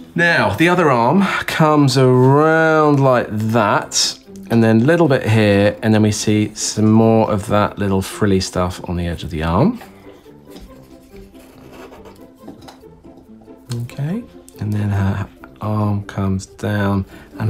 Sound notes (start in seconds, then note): 10.4 pen scratching